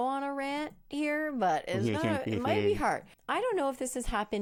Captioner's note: chuckling